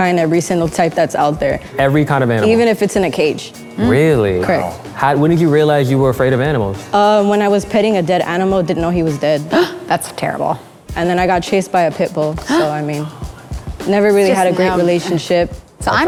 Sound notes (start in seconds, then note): 9.9 gasp